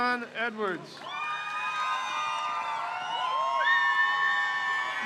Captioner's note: crowd cheers